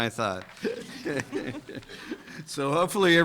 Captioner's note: judges laughing